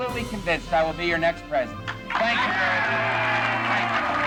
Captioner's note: audience cheering; audience cheering and applauding